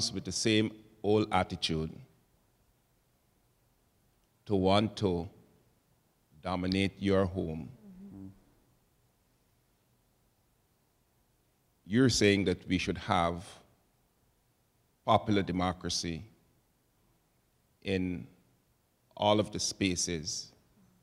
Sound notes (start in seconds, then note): none